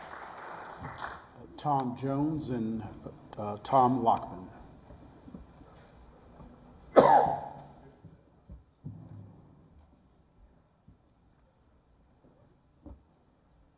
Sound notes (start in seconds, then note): 0.0 applause